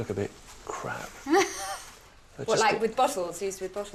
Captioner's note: aide laughing